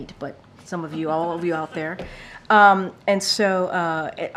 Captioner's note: laughter